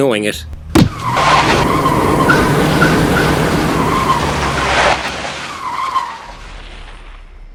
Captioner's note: car brakes